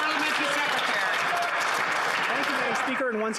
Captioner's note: some Applause